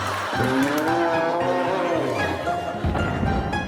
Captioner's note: blowing whistle; yelling